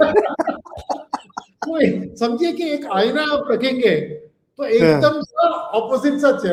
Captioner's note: laughs